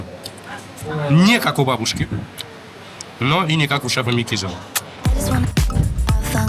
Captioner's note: kiss